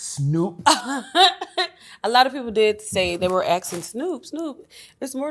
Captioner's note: laughs